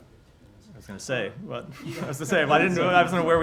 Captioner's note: laughter